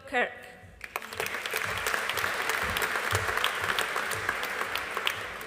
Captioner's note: audience applauding